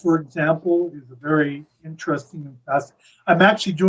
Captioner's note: audio skips